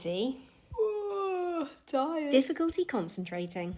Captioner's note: yawn